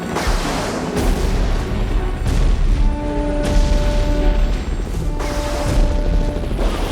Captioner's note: tense music; booming